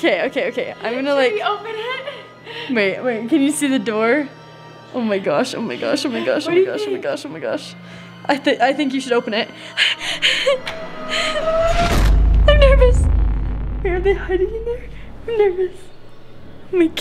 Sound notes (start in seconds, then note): 9.5 heavy breathing; 11.6 creepy music intensifies